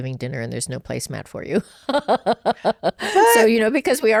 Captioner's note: laughs